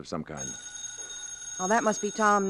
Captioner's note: phone ringing